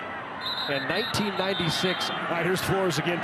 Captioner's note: referee blows whistle